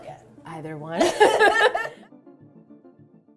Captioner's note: laughing